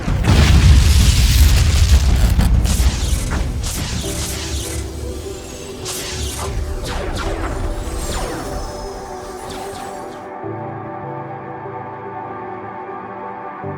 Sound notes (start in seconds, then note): 0.1 explosion booms; 2.8 electricity crackling; 6.8 cannons blasting; 10.4 calm ambient music